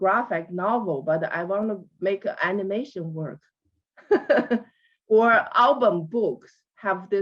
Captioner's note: laughs